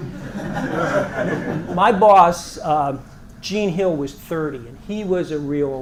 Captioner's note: laugh